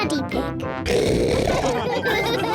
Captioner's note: oinks loudly; all laugh